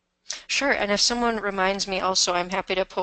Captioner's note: voiceover